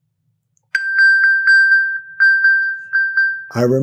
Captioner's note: electronic bell